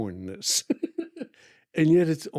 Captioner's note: laughing